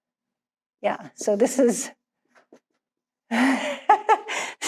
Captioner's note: laughs